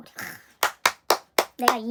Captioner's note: 박수